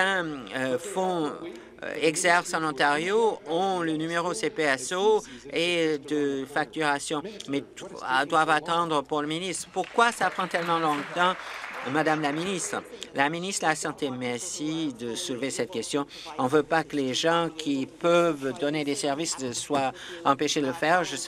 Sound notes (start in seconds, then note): 13.2 applause